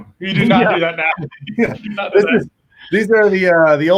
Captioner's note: chuckles